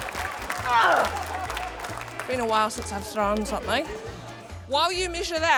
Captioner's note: applause; grunts